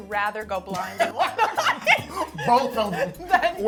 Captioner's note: laughs